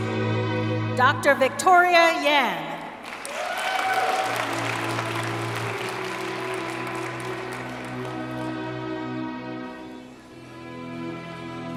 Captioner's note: applause and cheering